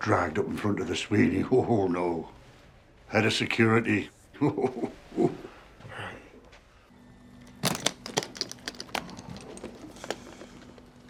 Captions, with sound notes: And I don't wanna get dragged up in front of the Sweeney. Oh, no. Head of security. [chuckles] Right.